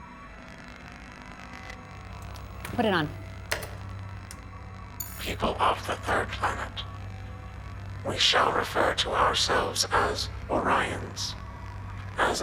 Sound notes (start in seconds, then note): 5.6 computer Voice